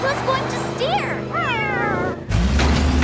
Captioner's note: meowing